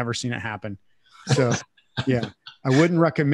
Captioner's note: laughing